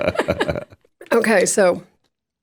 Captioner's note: all laugh